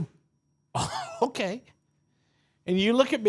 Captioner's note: chuckles